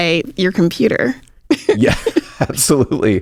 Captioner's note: laughs